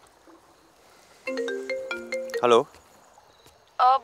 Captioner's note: Phone ringing